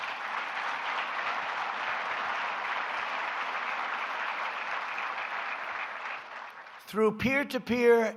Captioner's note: applause